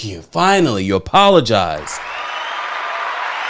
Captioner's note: applause